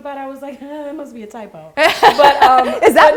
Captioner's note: laughing